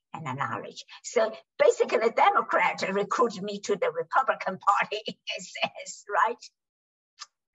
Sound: laughs

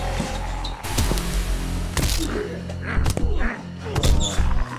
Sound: head thudding

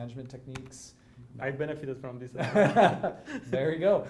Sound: both laugh

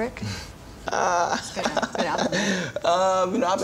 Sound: laughs nervously

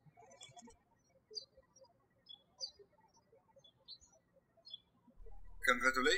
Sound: birds chirping

